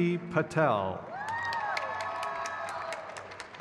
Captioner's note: crowd cheers